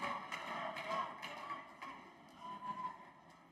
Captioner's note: applause